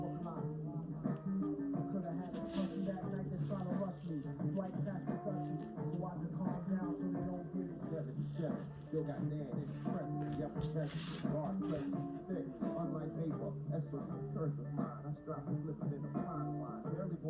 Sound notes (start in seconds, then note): 2.0 //paper friction sfx//